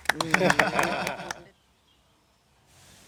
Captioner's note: laughs